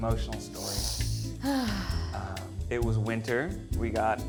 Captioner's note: sighs